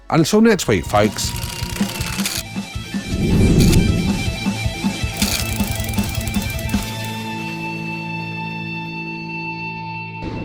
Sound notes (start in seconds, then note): 0.1 upbeat music; 2.9 air whooshing; 5.1 upbeat music